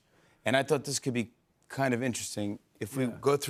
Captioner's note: none